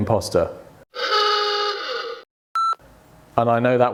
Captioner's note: klaxon sounding